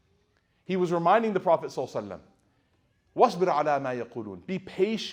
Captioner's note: speaking Arabic